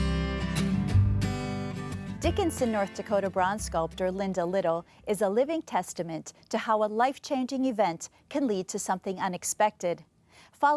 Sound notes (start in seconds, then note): 0.0 light guitar music; 2.7 voiceover